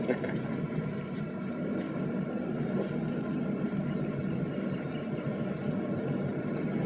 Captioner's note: sound of running engine